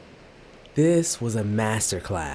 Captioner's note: wave surging